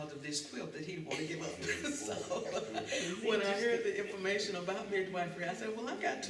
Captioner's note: laughter